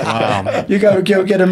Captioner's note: laughing